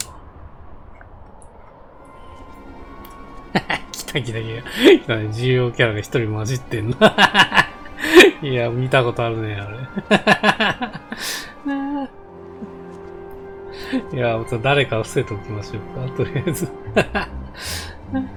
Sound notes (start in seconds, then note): 9.7 laughs